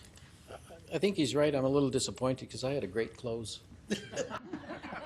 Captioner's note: laughing